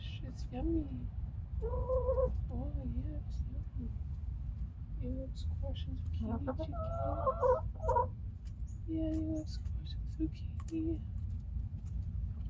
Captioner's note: more happy chicken noises